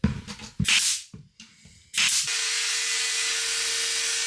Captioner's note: saw buzzing